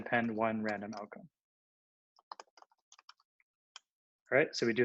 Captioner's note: typing